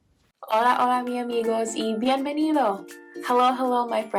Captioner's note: speaking in foreign language